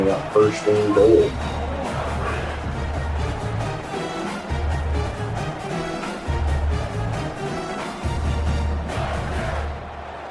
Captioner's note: crowd Noises